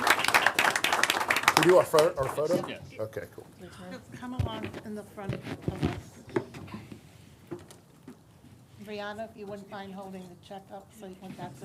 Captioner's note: applause